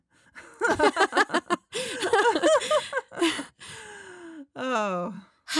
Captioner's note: they laugh